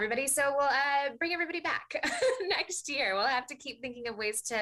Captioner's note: chuckles